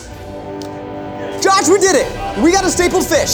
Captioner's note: stapler clicks